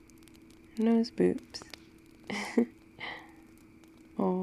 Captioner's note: laughs